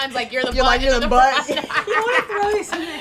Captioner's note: laughing